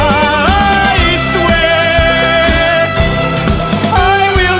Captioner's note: warbly trilling returns